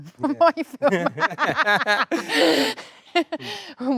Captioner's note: both laughing